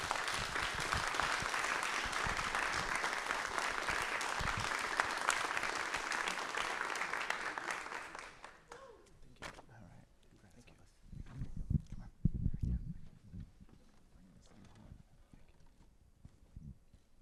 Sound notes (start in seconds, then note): 5.4 applause